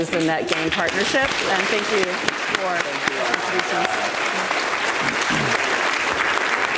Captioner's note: audience applauds